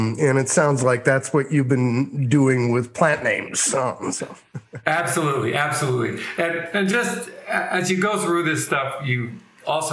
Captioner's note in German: lacht